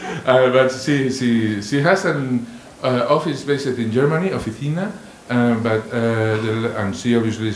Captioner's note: spanish